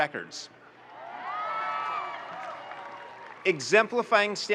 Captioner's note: audience cheering and applauding